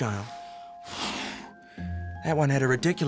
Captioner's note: blows